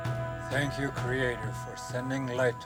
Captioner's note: birds chirping